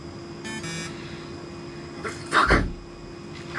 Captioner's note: ATM keys beeping; ATM buzzes